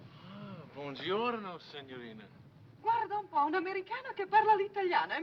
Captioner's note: speaking foreign language